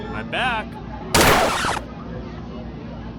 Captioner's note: record scratches, dart misfires